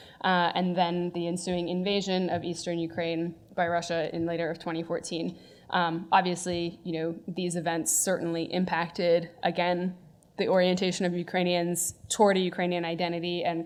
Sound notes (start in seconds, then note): none